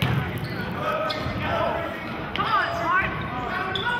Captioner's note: yelling